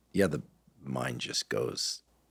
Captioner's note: none